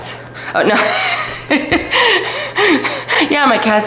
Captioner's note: laughs